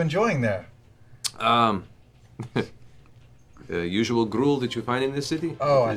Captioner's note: laughs